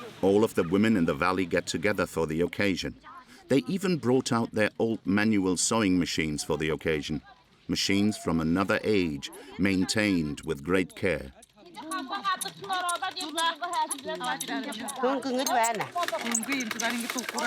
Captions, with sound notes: All of the women in the valley get together for the occasion. They even brought out their old manual sewing machines for the occasion. Machines from another age maintained with great care. [Foreign spoken audio]